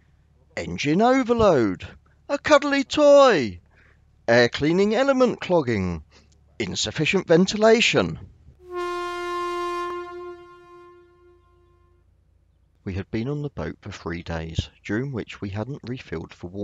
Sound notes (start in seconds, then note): 8.6 claxon Sound